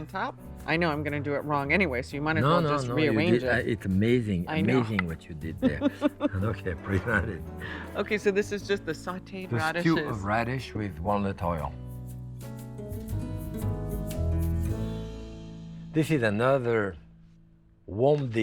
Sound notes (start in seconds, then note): 5.6 laughs